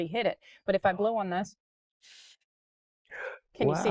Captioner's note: blowing